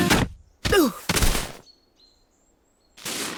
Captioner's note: groans